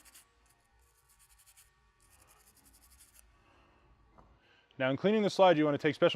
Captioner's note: brush scratches